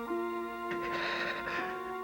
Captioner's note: Susan shivers